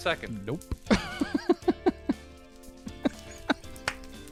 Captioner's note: laughs